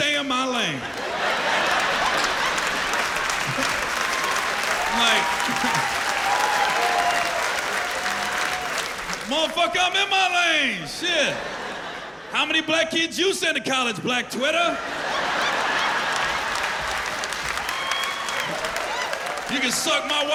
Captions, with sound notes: and you gonna tell me, "stay in my lane"? [laughter] -[cheers and applause] -I'm like... Like, "Motherfucker, I'm in my lane! Shit, how many black kids you send to college, -Black Twitter?" -[laughter] [cheers and applause]